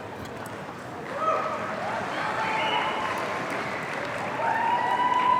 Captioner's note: audience cheering